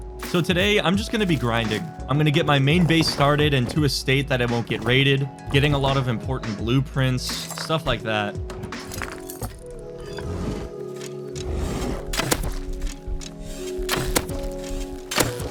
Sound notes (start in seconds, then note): 11.4 bear snarls; 12.2 thump; 14.1 thump